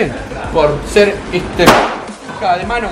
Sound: bang

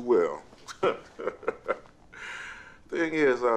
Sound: laughs

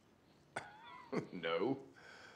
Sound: chuckles

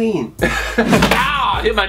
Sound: laughing

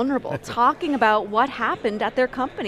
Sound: chuckles

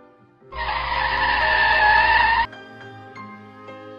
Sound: brakes screeching

